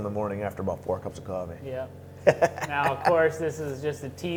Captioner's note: laughing